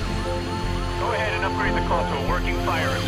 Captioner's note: sirens blare